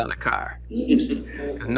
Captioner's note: laughter